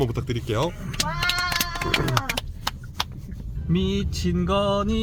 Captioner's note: applause / Cheers